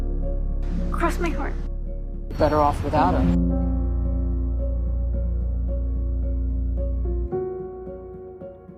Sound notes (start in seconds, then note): 2.5 voiceover